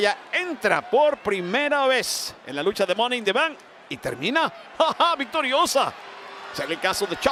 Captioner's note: laugh